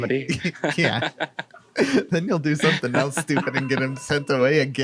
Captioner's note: laughs; laughing